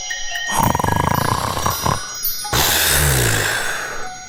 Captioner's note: snoring